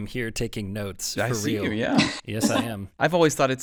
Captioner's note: laughs